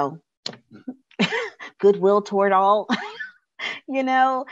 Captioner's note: chuckles